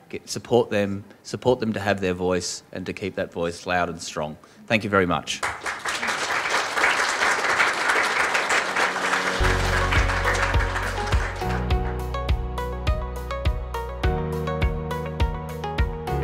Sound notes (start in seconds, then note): 5.4 applause